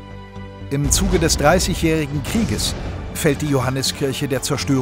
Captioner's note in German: Kriegslärm